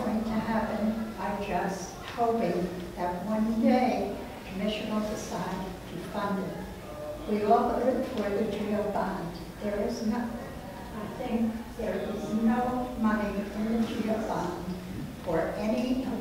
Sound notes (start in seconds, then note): 8.0 speaks away from mic